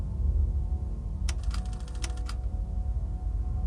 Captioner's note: gloomy music; projector clatters; button clicks; gloomy music